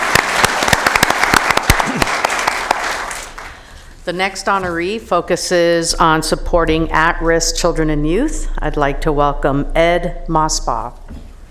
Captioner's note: applause